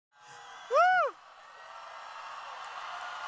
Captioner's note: cheering